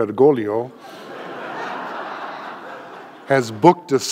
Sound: audience laughing

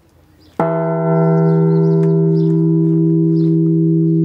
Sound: bell chime

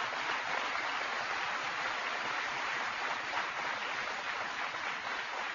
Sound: applause

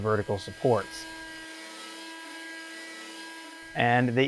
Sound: sanding

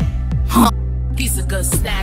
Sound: intense reversed moan

